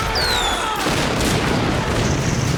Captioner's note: rocket whistling